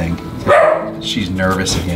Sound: dog barks

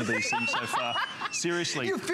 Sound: laughter

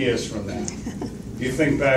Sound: laughs

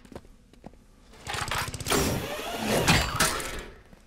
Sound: clanking

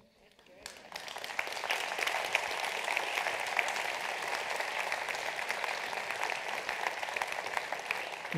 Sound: applause

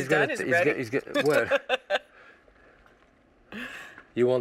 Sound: laughs

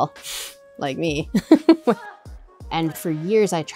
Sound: laughs

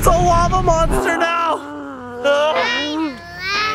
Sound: growls

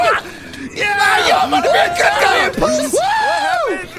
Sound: cheering

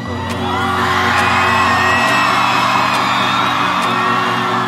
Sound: audience cheering

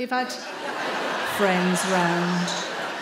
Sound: in a deep voice

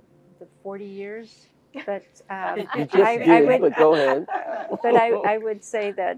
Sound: laugh

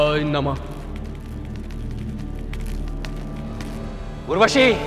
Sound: footsteps

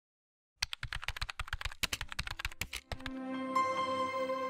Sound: keyboard clattering; gentle chiming music

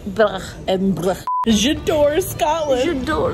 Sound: beep

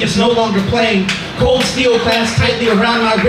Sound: audience applouds

